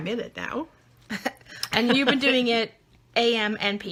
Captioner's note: laughing